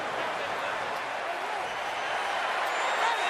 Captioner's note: crowd cheering